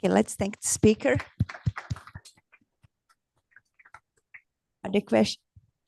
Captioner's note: applause